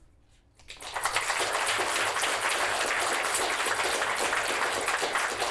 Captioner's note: applause